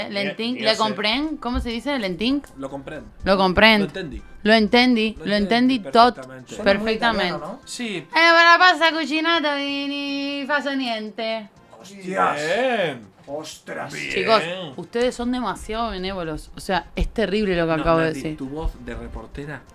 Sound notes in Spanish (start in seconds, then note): 8.6 habla en italiano